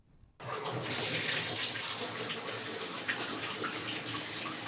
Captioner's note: water splashing